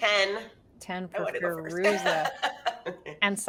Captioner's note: laughs